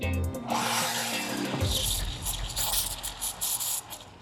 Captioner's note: foamer sputtering